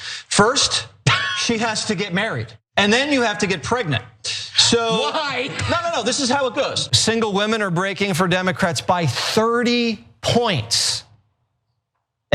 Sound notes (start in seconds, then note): 4.3 laugh